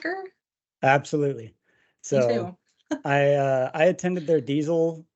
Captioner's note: chuckles